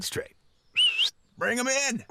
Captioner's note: whistle